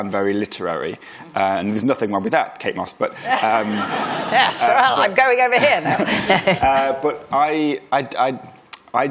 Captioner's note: laughter